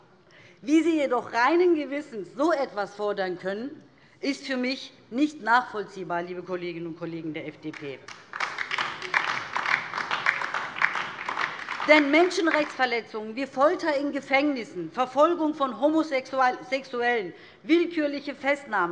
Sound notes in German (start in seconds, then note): 8.0 Beifall DIE LINKE